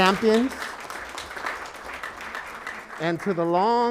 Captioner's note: applauding